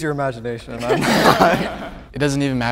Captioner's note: group laughing